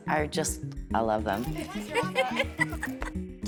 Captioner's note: laughs